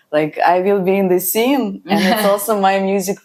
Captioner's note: laughs